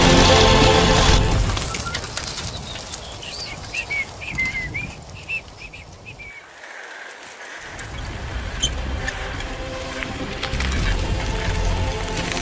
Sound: boys whistling contentedly

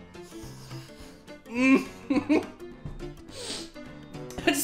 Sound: stifled laughter

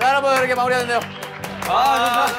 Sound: applause

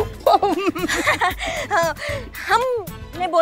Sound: giggles

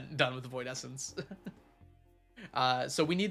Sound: laughs

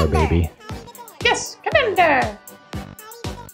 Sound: high pitched voice

